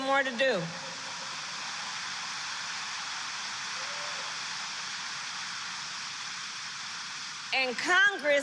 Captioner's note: applause